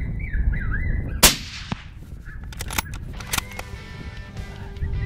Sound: gun fires; lively music

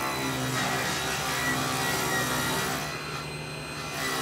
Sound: saw buzzing

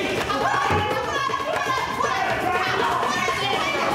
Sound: all yelling

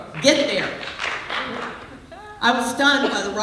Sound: applause

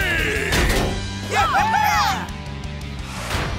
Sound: cheering

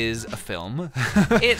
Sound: laughs

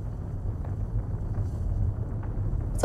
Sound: flames crackle

